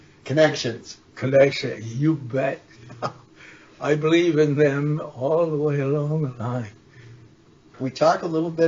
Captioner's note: laughs